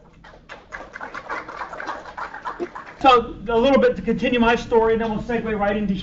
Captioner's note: applause